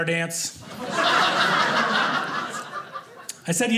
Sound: audience laughing

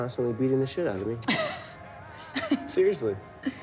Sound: Jane laughs

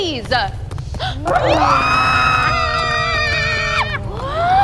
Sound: Scylla shrieks

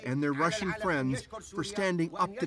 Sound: speaking French

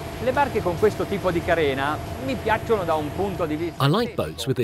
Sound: speaks Italian

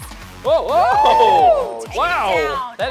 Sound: cheering

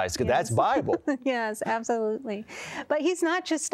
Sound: laughter

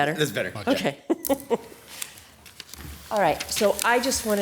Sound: laughs

